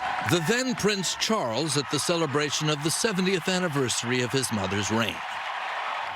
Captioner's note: applause